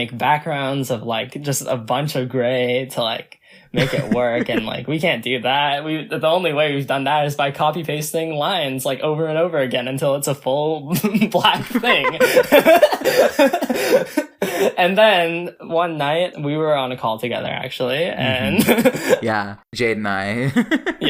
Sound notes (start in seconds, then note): 3.7 laughs; 11.4 both laugh; 20.5 laughs